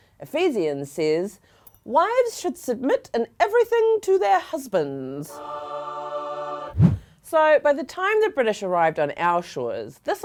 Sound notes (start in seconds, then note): 5.2 angelic singing; 6.7 air whooshing